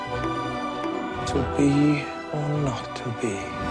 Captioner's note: playful clanking